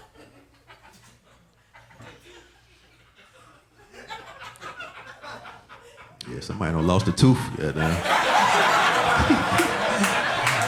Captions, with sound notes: (audience laughing) Yeah, somebody done lost a tooth, goddamn. (audience laughing)